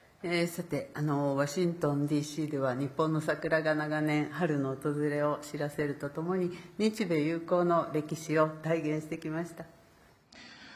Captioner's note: speaking Japanese